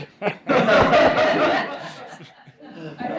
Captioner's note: laughter